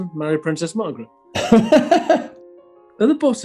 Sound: laughing

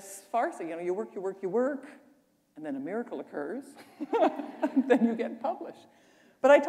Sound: chuckle

